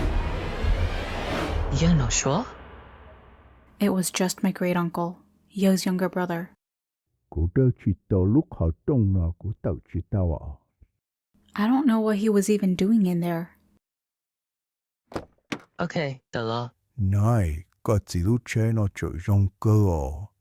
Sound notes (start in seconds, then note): none